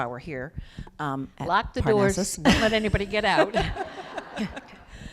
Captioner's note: laughter